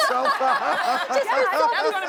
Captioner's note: audience laughing